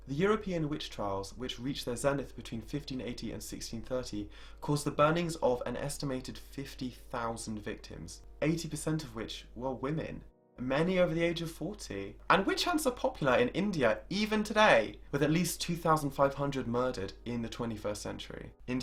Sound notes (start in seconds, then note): none